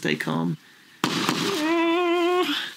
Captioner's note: gunshots